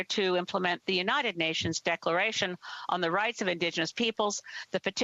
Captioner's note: speaking Alternative Language